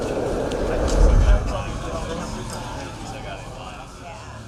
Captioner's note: indistinct chatter